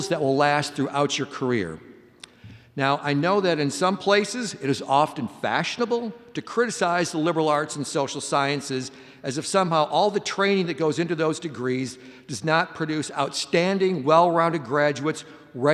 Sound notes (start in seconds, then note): none